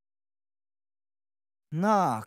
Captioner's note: silence